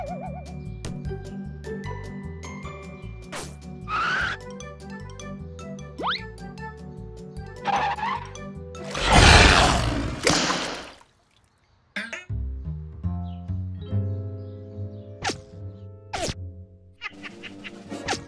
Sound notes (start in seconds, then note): 8.9 roars; 9.0 smack